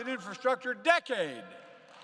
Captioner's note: applause